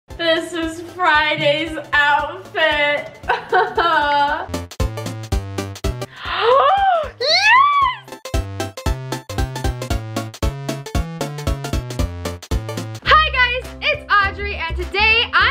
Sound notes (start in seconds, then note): 3.3 chuckling; 4.9 upbeat music; 6.1 gasps